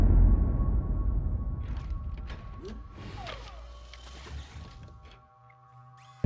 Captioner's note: chilling beat; Kellogg's limbs whirring